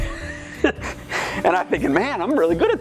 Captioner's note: laughs